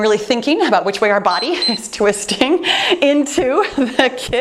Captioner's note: timer beeps